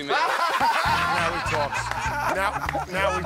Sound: laughter

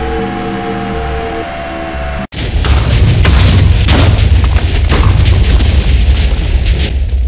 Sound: explosions

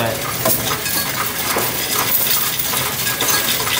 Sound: coins rattling

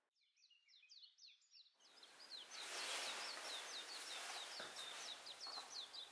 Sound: chirping of birds

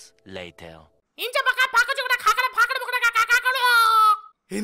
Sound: alien language

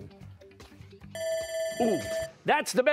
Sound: bell rings

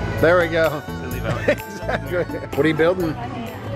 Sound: laughing

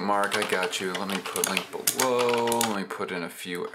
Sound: keyboard clicking

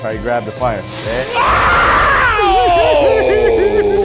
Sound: screams; laughs

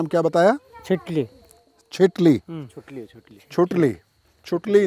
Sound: murmurs

